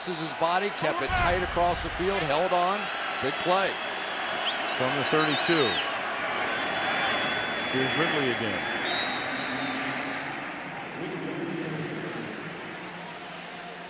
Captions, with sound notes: He crosses his body. Kept it tight across the field. Held on. Big play. From the 32. Here's Ridley again. [whistle] [pa announcement]